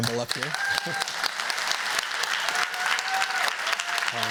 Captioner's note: cheers, applause